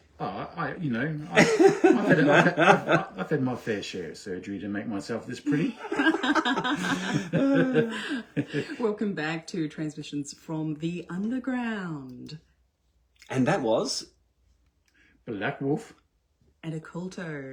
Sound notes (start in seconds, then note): 5.4 laughter